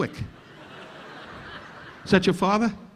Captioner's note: audience laughing